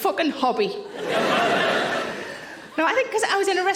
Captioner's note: audience laughing